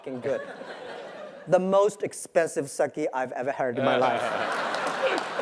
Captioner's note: laugh